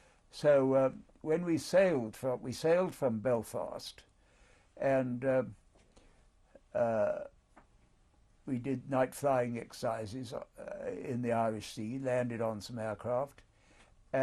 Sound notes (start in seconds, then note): 5.2 pauses for 3 seconds